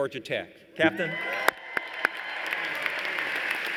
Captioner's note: applause